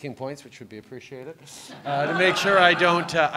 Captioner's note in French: Rires